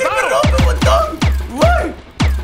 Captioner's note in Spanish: Sorprendido